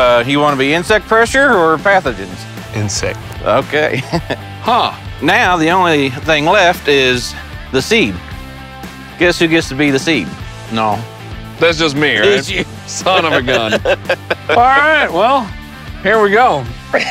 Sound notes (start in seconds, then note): 3.9 laughs